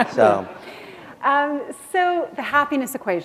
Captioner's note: chuckle